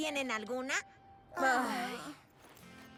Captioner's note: sigh